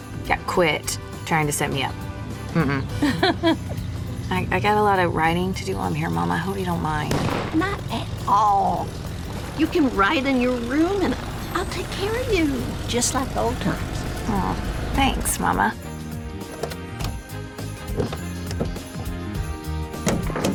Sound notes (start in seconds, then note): 2.5 ellie laughs; 7.1 car backfires